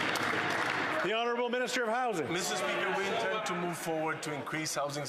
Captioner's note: applause